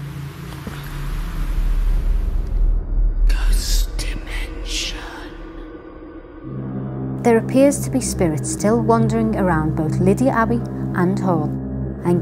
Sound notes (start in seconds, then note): 3.8 ghostly Voice; 6.8 eerie music